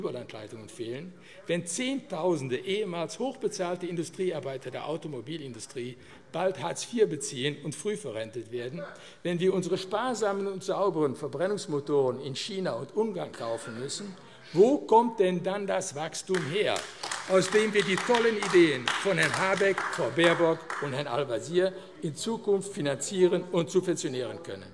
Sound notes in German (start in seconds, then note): 16.3 Beifall AfD